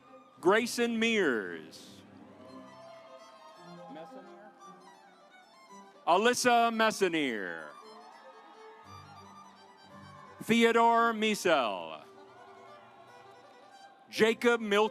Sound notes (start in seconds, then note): 2.3 audience applauds; 7.6 audience applauds; 12.3 stately music